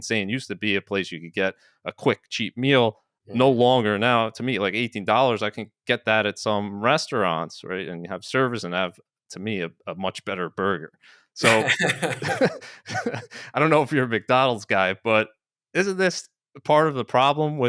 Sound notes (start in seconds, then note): 11.4 laughing